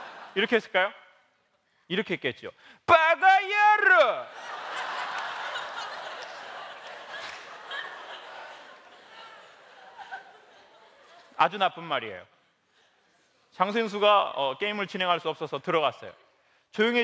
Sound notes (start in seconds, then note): 4.4 laugh